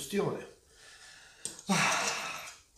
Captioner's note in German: seufz